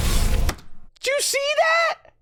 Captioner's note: epic damage animation sounds here